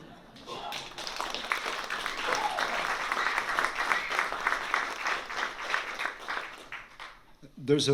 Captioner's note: applause